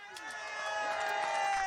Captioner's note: cheering